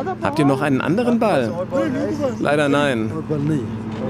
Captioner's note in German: englisch